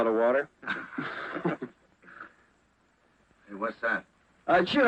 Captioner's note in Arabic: يضحك الجميع